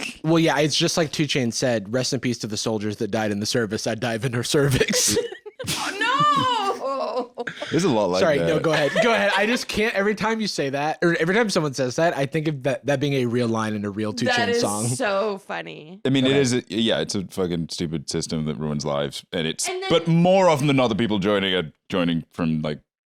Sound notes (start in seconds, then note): 4.6 laughing